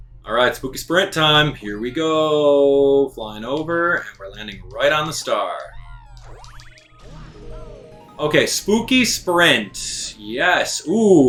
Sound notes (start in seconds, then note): 5.9 gaming sounds; 6.6 instrumental music